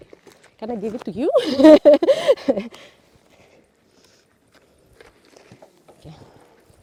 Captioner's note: laughs